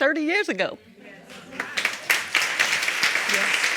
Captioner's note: audience applauding